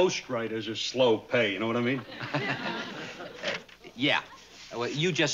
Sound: laughs

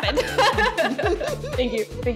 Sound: hearty laughter

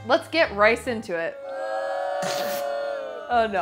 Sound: crowd booing

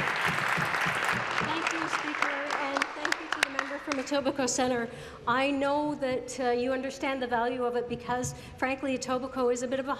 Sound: applause

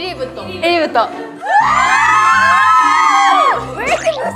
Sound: scream

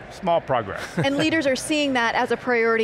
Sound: laughs

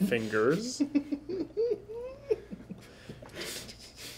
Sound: laughing

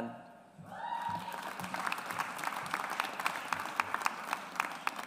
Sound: audience applauds

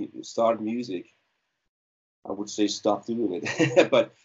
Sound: chuckling

